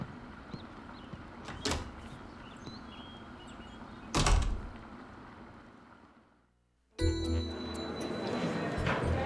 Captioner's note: door opens, closes